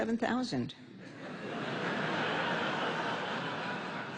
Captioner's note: laughter